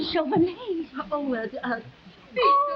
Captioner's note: Veta stammering